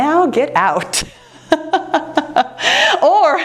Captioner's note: laughs